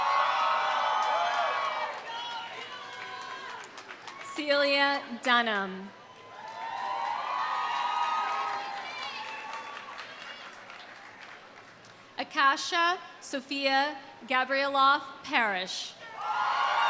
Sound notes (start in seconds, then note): 0.0 audience applauding; 0.0 audience cheering; 6.0 audience applauding; 6.0 audience cheering; 16.1 audience cheering